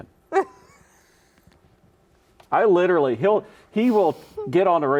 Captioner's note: laughs